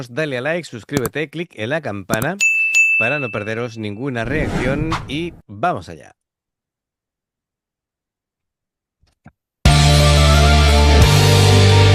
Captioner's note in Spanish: campana